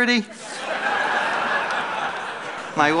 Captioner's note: laughter